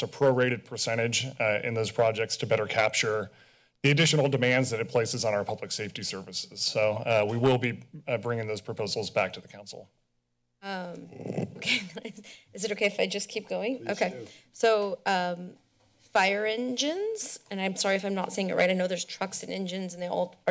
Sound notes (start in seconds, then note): 11.1 chuckles